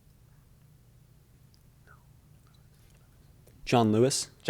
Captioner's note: mic shuffles